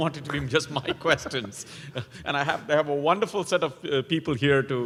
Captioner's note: laugh